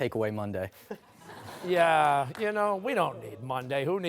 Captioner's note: laughter